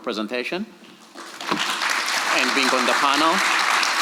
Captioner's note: audience applauds